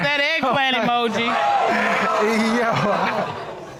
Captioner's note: audience exclaiming; laughs